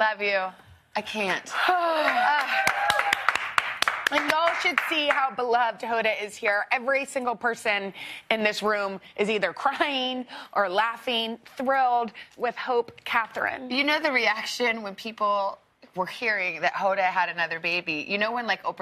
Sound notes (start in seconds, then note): 5.0 applause